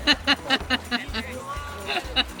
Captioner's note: laughter